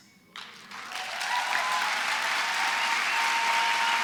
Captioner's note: applause